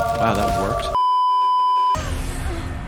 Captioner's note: beeeeeeeeeeeep